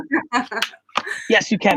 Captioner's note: laughing